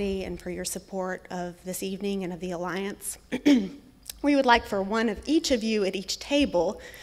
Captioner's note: clears throat